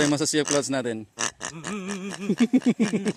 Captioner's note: oink oink oink; laughs